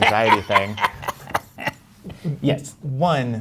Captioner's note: guy laughing